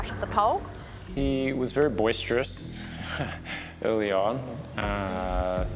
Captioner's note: chuckles